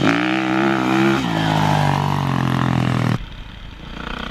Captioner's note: engine revving